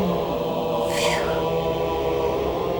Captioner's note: relieved sigh